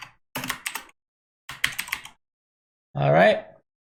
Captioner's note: types keyboard